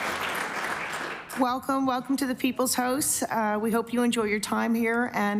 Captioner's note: applause